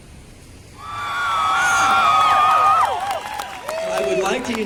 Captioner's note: crowd cheering